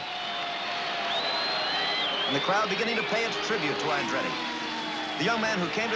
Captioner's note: crowd cheering